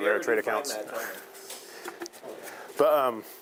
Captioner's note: chuckling